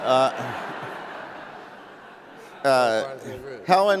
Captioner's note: laughs